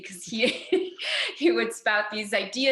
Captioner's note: laughing